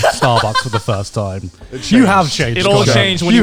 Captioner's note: all laughing